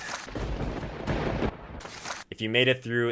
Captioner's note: thunder cracks